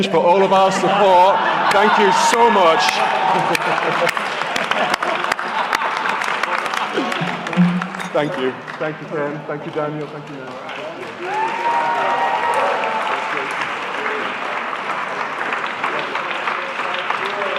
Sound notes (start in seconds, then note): 3.3 cheering; 16.9 applause